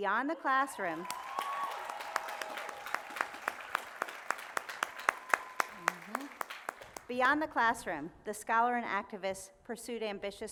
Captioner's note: cheering